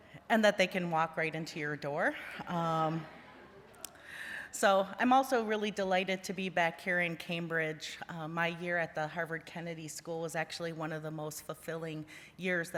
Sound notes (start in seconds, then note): 3.1 laughter